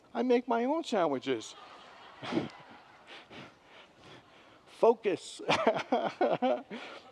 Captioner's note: congregants laugh